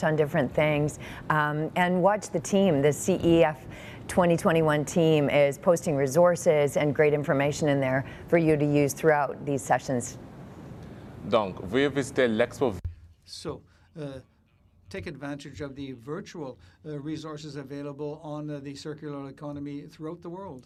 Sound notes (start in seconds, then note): 12.7 speaking in French